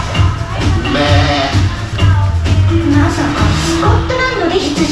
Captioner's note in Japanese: 羊の鳴き声